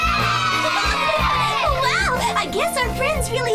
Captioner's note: laughing